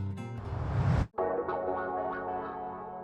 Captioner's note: whoosh